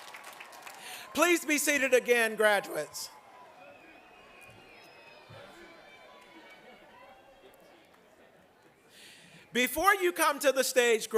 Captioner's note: applause